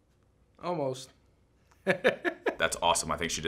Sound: laughs

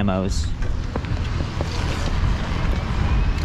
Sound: bike motor

